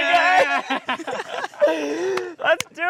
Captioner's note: chuckling